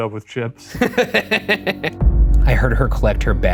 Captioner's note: laughs